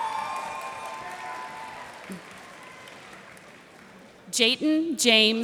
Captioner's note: cheers and applause